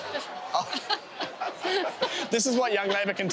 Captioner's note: laughing